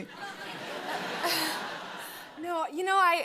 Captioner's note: laughter